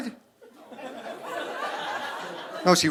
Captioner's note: audience laughing